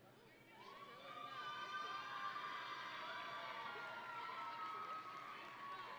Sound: audience and graduates cheering

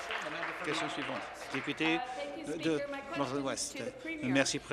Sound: applause

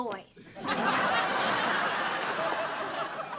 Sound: laughter

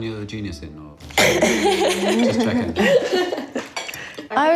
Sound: laughs

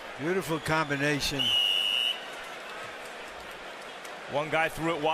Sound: whistle blows

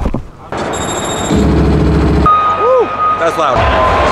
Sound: arcade thumping

